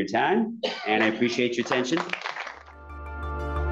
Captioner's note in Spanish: aplausos